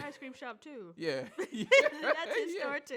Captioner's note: laughs